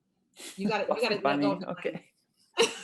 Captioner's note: laughs